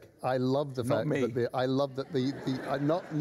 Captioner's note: laughter